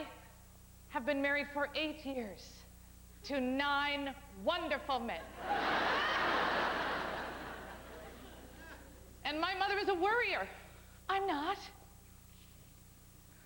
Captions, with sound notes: I... HAVE BEEN MARRIED FOR EIGHT YEARS... TO NINE WONDERFUL MEN. [howling laughter] AND MY MOTHER IS A WORRIER, I'M NOT.